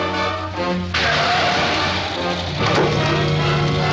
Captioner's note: tires screech